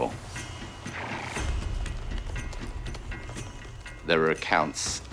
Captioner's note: horse chuffing